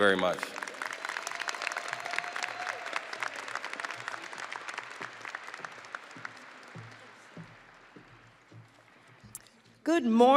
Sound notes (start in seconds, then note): 5.1 audience applauding and cheering